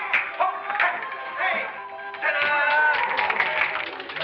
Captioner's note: applause